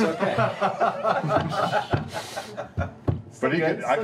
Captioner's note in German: Lachen